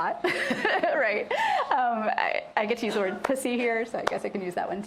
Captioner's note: laughs